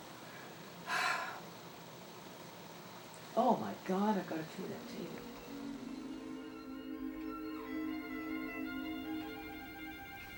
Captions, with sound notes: (sighs) Oh my god, I've got to clear that table. (light orchestral music)